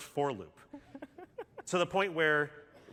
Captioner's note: laughter